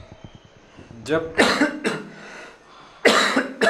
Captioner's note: coughs